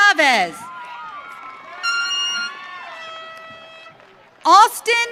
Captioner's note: audience cheering